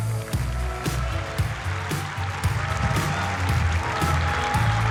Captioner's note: applause